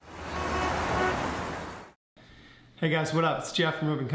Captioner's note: car horn